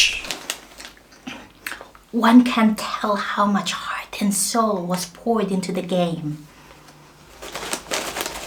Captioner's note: hush hush; whisper